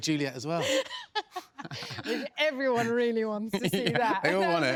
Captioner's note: laughs